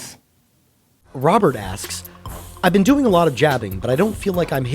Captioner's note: voiceover